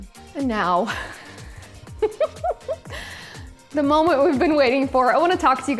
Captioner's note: giggles